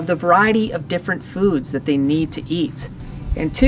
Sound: none

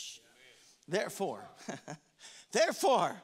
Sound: chuckles

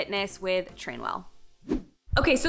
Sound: transition sound effect

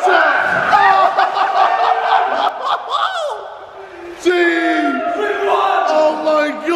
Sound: laughing

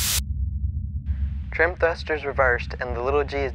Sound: air hisses

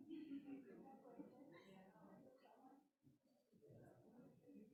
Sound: group chattering

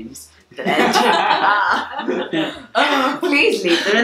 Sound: laughing

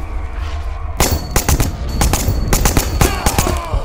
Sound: machine gun fire thudding; German soldiers yelling

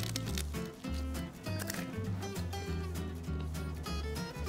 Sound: Karaage crunches

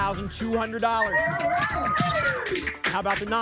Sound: applause and cheering

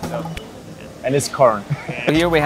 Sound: laughs

